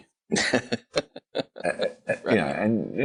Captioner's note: laughing